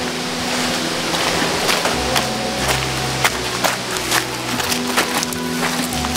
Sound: footsteps squelching through mud

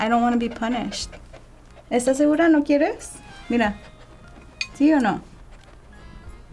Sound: speaking Spanish

